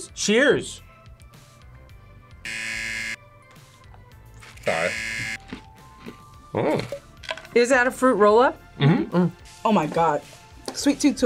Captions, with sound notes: - Cheers! (buzzer) (buzzer) - Mm! - Is that a fruit rollup? - Mm-hmm. - Oh my god. Sweet tooth